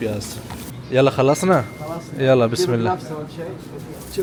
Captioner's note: Arabic